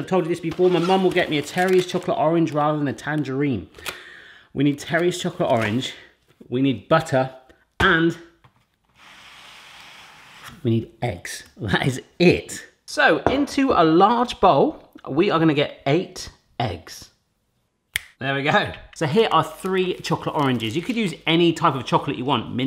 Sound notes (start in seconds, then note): 17.9 snaps fingers